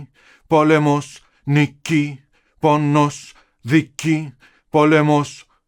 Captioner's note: speaking Greek in recording